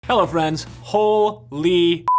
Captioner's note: beep